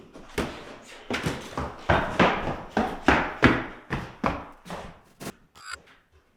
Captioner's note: ball thudding; feet stomping; static crackling